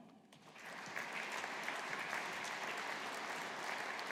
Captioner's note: audience applauding